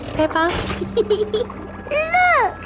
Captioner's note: peppa giggles